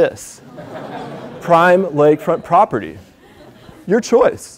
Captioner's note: laugh